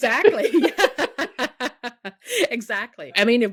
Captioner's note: people laughing